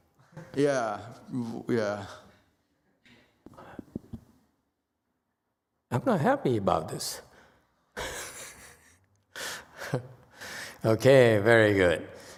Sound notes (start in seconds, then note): 8.0 laughs